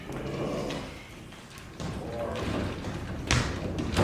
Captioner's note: Misc. Wriker groaning